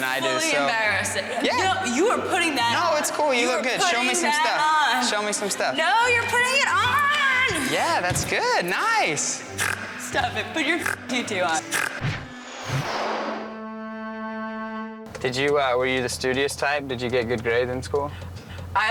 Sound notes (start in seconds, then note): 11.6 snorting